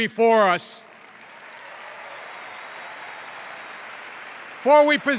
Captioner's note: cheers and applause